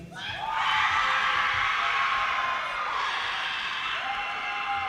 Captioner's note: audience cheers and applause